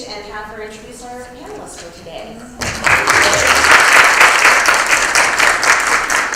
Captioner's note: applause